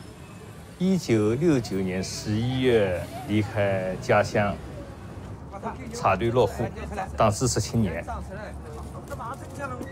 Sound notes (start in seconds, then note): 5.6 people chattering